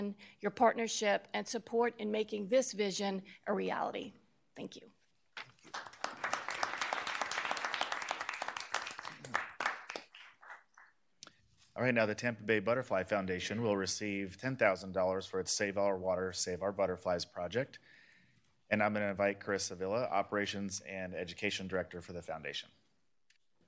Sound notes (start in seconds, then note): 8.0 applause